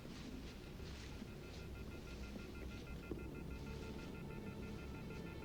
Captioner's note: off-The-Hook telephone beeping